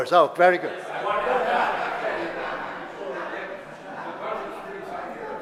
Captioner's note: audience laughter